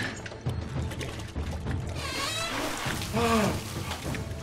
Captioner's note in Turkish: Müzik - Gerilim; Kapı gıcırdama sesi